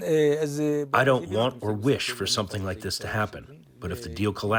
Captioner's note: through translator